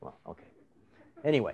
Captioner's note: laughter